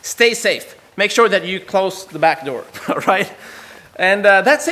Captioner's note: laughs